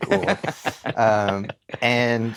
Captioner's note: laughter